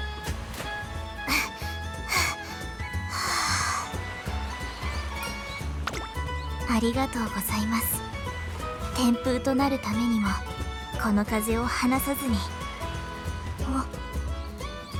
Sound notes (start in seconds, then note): 1.2 huff